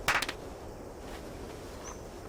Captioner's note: clapping